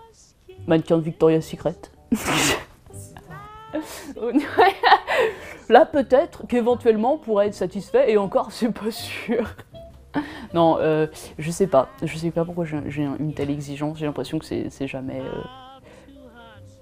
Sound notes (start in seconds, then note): 3.8 laughs